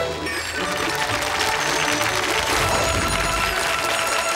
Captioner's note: audience clapping